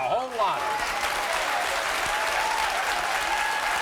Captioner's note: crowd applauds